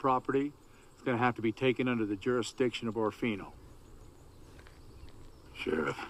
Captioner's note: Kun Hua Speaks Mandarin